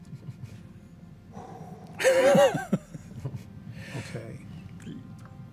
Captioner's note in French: expire bruyamment